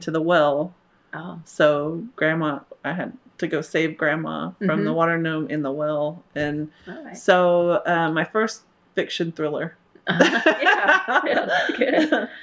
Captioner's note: laughter